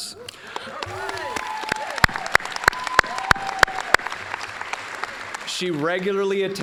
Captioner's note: applause